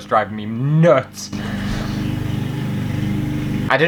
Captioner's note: lawnmower Motor